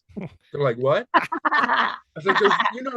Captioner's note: laughing loudly